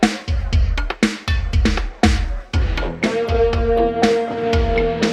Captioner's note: laughing